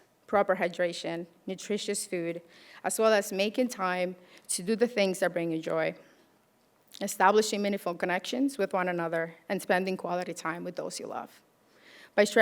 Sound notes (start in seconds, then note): none